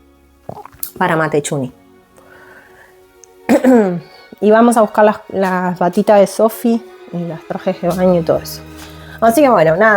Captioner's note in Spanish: carraspeo